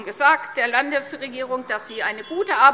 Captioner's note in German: Anhaltende Unruhe – Glockenzeichen